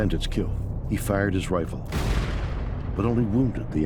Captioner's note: gun shooting